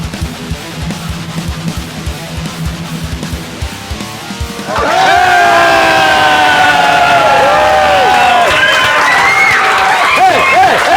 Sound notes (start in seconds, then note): 4.6 cheers and applause